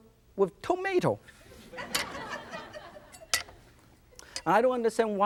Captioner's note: audience laughs